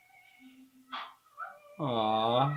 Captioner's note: ballon pops